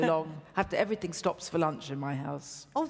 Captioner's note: laughs